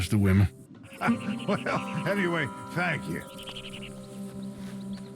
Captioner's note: laughs